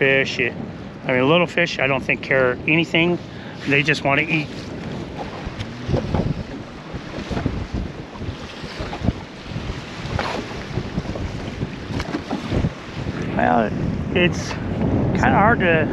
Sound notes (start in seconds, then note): 6.9 water lapping; 8.0 rod whipping